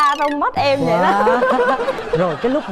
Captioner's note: laughing